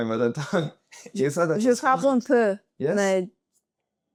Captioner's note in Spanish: en francés